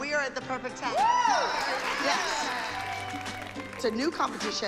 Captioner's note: cheering and applause